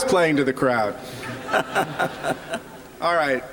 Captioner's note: chuckling